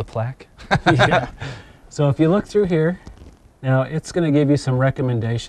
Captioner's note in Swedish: skratt